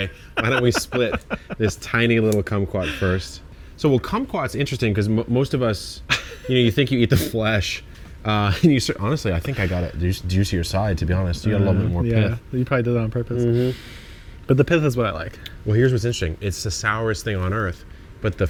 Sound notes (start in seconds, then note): 0.0 laughs; 6.1 chuckles